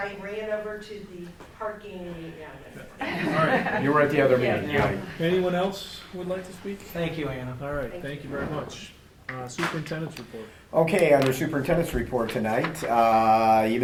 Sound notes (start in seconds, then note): 3.0 group laughs